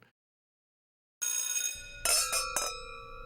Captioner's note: bell rings; glasses clinking